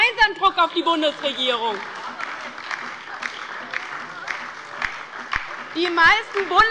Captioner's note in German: Beifall bei der LINKEN und der SPD